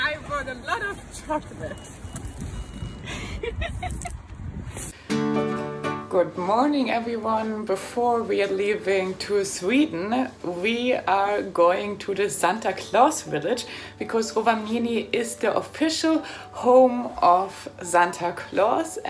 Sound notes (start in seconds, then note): 3.0 laughing; 5.3 soft music